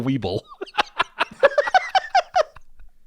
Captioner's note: laugh